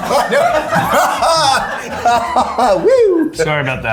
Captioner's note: everyone laughing